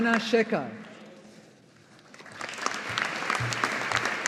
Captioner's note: audience applauding